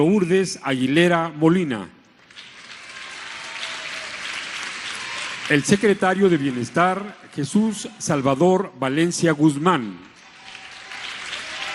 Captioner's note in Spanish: aplausos